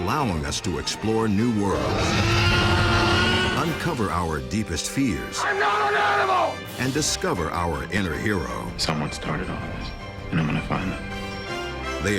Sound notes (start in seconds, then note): 1.7 dinosaur screaming